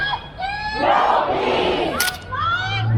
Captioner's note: crowd